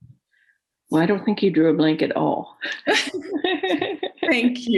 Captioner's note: laughter